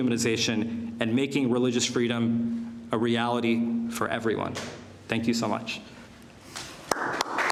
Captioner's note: applause